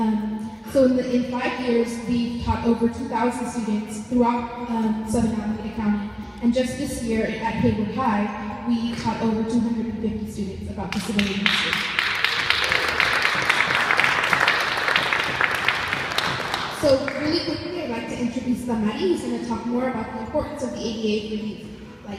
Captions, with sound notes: In 5 years they have taught over 2000 students throughout Southern Alameda County. Just this year, over at Hayward High, we have taught over 250 students about disability history. [applause] So really quickly, I'd like to introduce Damary, who is going to talk more about the importance of the ADA for youth like her.